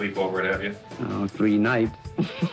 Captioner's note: chuckles